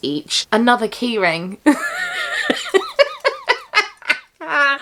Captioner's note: laughs